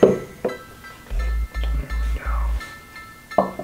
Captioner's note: whispers